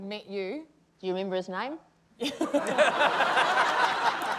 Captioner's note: laughter